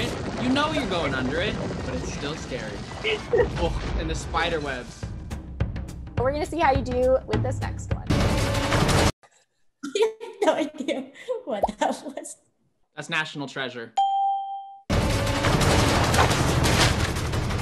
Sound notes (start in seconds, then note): 8.0 thrilling music; 9.7 laughs; 14.0 ding; 14.9 thrilling music